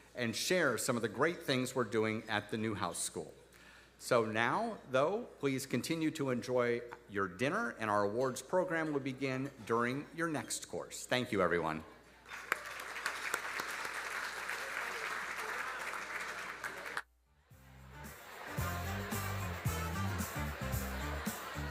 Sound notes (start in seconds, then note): 12.2 audience applauding; 17.5 upbeat music